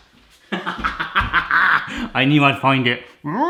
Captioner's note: laughing